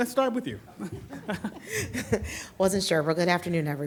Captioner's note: laughs